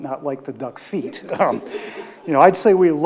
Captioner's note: audience laughs